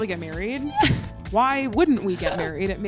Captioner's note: laughs